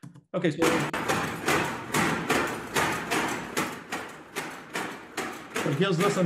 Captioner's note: clanking